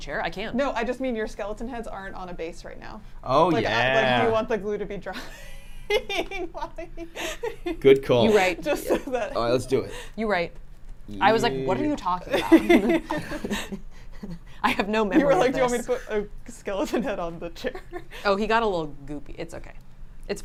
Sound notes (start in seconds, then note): 5.1 laughs; 12.2 laugh; 17.9 laughs